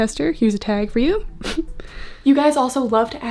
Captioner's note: narrator chuckles